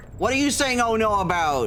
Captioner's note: none